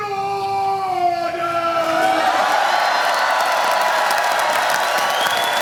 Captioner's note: applause